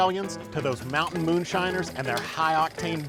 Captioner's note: projector whirring